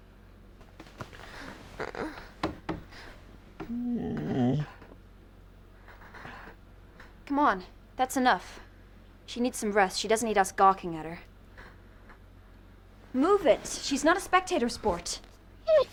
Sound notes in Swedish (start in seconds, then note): 3.6 hund som gnäller; 3.6 Trudy stönar